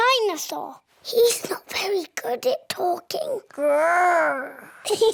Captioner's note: whispers; both giggle